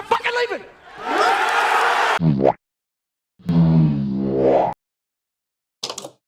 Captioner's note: crowd Cheers